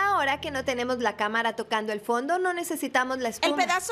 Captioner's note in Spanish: none